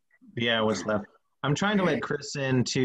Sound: murmurs

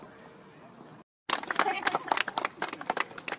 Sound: applause

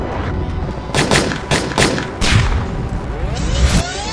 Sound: gunshots booming; audio rewind screeching

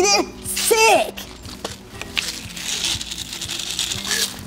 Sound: meds rattling

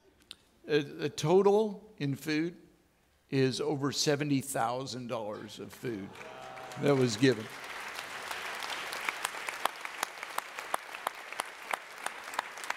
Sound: audience clapping

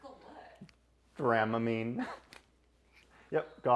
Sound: laughs

